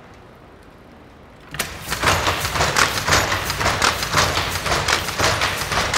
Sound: machine clattering

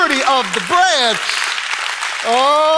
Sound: congregation applauding

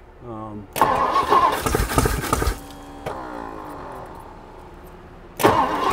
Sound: engine struggling to start

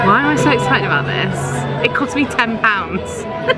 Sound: laughing

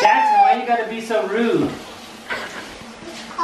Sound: voiceover

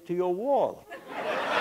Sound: background Laughter

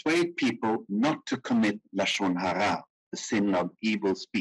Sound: speaking in foreign language

